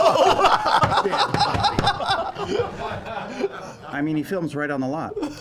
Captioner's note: laughter